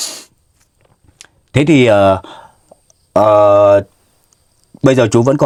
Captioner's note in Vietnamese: khịt mũi